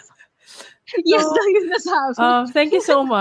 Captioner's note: laughs